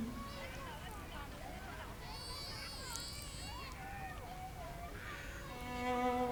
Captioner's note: children playing